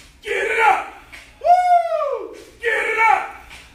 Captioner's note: shouts